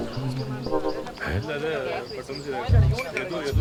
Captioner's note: indistinct chatter